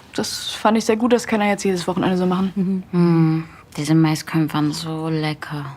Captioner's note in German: none